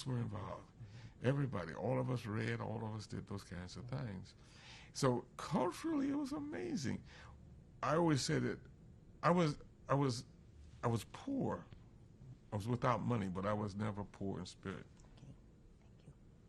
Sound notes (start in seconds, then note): none